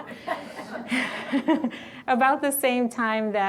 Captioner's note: all laugh